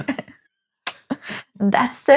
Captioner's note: laughing